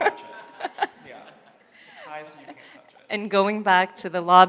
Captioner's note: laughing